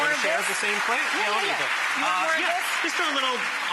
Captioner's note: audience clapping